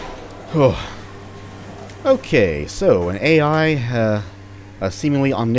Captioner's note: heavy sigh